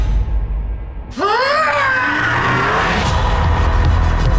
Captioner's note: screams